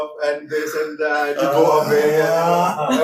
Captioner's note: laughs